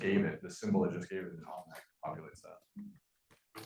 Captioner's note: speaking faintly